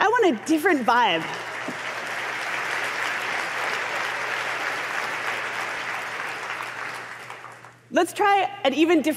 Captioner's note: applause